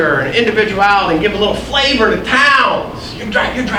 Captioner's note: none